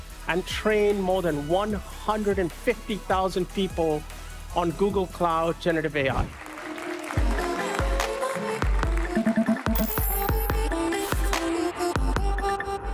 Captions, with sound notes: and train more than 150,000 people on Google Cloud generative AI. [APPLAUSE] [UPBEAT MUSIC]